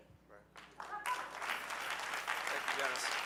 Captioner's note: audience cheering